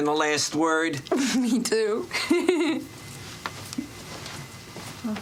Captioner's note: chuckles